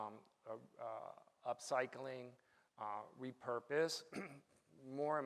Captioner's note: clears his throat